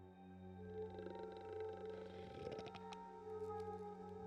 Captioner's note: growling